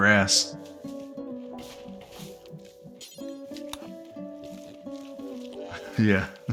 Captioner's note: laughs